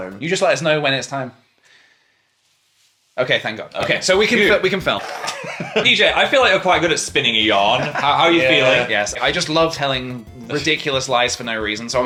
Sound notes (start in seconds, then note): 4.8 laughs